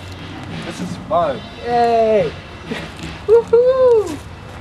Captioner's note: yells